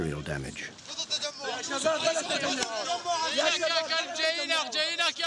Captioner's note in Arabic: الصوت المنطوق باللغة العربية